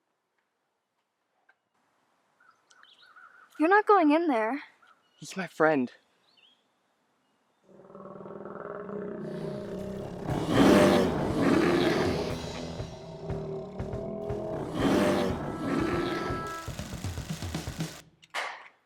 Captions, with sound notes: You're not going in there. He's my friend. (growling) (dramatic music)